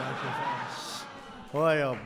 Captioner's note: laughter